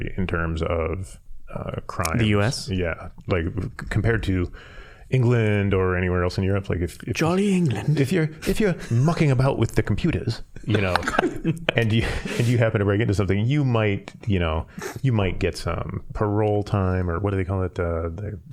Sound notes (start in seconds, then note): 10.5 all laughing; 12.4 normal accent